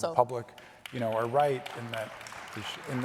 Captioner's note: audience applauding